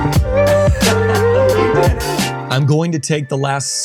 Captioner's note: laughing